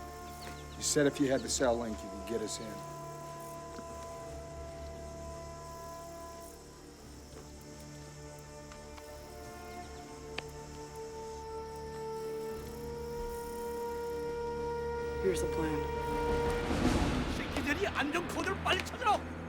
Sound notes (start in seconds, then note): 16.2 Korean